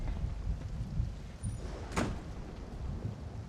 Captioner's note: thundering